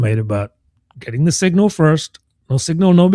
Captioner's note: uh